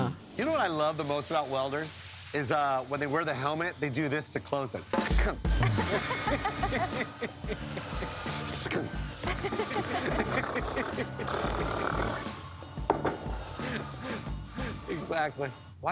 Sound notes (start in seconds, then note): 3.4 upbeat music; 5.6 laughing; 10.0 imitating drilling sound